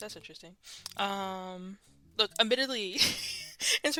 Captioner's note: laughs